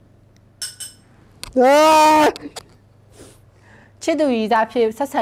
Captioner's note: clink clink; groans